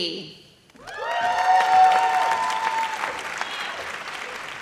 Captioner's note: audience cheers